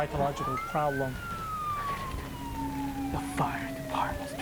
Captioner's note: sirens wailing